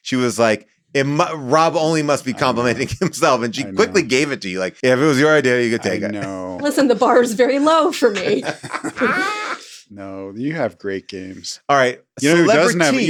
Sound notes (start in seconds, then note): 5.9 laughs; 8.0 laughs